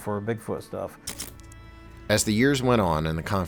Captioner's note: camera snapping